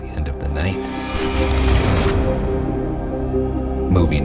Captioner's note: electrical buzzing